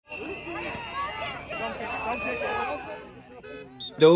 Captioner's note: crowd chanting